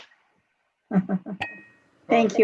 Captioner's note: soft giggles